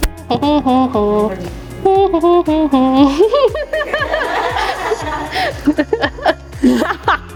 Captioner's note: audience laughing